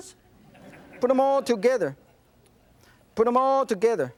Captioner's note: audience chuckling